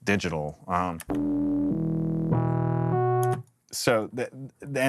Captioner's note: digital tones